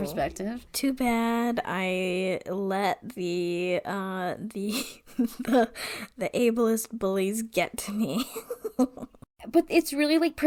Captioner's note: laughs